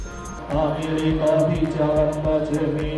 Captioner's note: chanting